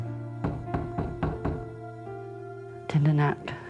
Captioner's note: knock on door